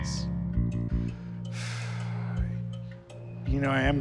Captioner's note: Corey sighs